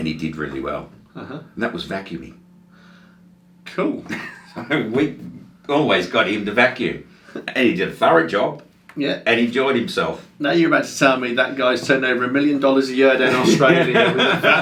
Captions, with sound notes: and he did really well and that was vacuuming. - Cool. - (chuckles) We always got him to vacuum and he, did a thorough job, and enjoyed himself - Now you're about to tell me that guy sent over a million dollars a year down Australia